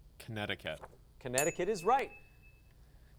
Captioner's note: ding